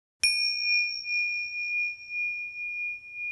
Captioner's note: bell ringing